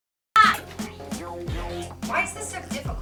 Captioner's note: laughs